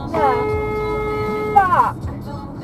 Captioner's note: car horn